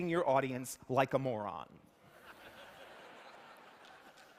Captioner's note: laughter